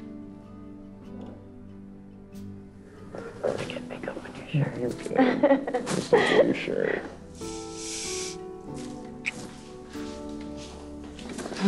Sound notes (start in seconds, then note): 5.1 laughs